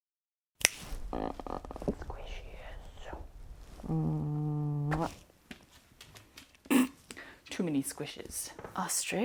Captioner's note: snort